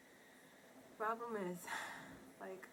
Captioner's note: sighs